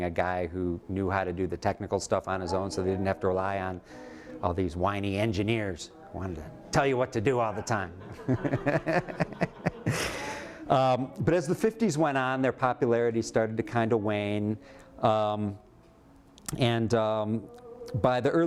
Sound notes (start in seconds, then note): 7.6 laughter